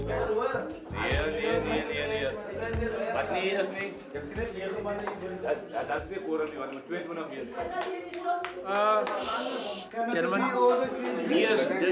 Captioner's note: speaking in afrikaans